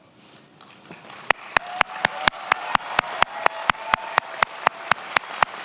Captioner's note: attendees applauding and cheering